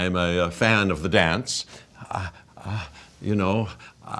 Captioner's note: imitating moaning sounds